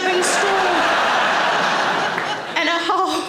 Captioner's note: audience laughing